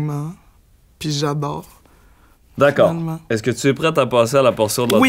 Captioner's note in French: none